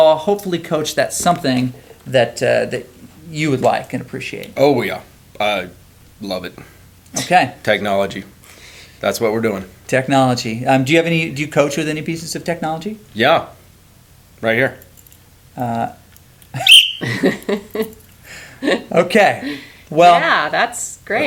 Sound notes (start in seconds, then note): 16.6 blows whistle; 19.4 laughs